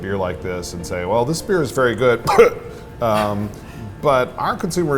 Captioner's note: coughs